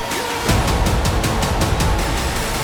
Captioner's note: crowd cheers